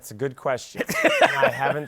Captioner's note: laughs